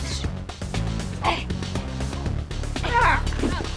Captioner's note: grunts; slapping sounds